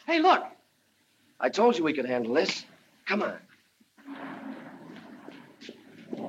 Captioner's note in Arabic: يضحك